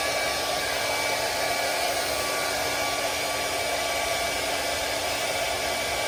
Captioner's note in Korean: 진공 청소기나 드라이기 소리?